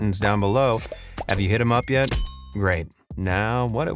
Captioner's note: bell rings